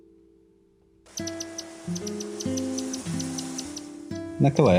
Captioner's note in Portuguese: Som do vento nas folhas; Canto do Ferreirinho-relógio